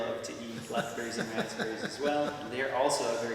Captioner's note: laughs